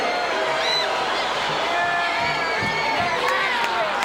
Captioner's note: audience cheering